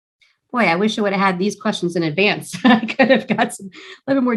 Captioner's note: laughs